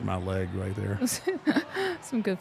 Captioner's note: laughing